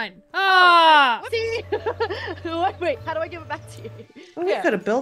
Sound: laugh

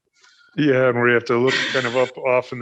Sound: laughs

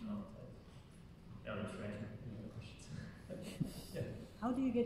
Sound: laughing

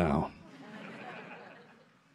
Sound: laughter

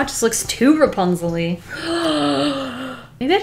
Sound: gasps

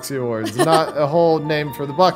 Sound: laughs

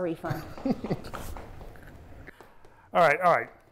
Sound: laughing

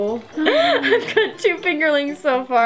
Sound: chuckles

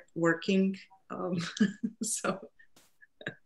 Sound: laughs

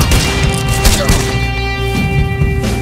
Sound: gunshots

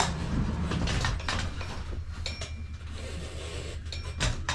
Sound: metal clanking

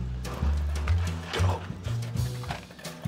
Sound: whispering

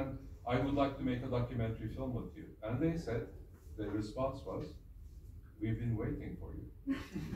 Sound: laughs

